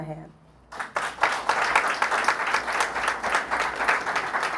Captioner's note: applause